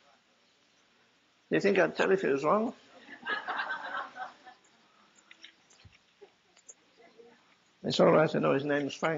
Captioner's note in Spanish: risas